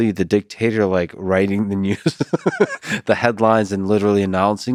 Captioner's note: laughs